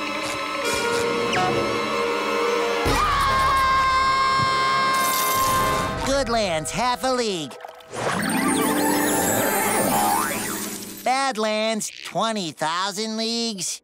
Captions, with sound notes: [screaming] Goodlands, half a league. [neighing] Badlands, 20,000 leagues?